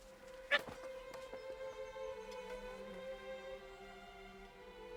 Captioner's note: Melengal yells